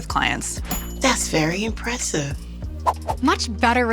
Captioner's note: bell dings